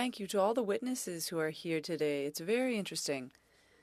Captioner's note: speaking French